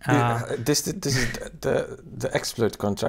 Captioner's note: chuckles